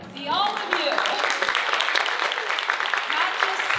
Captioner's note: audience applauding